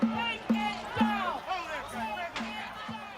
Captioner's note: people shouting and clamoring